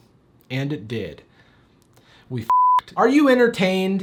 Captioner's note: beep